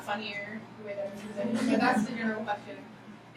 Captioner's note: laughing